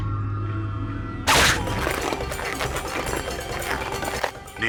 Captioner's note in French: Son de ballon de baudruche